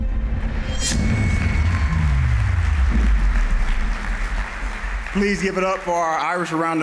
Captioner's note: cheers and applause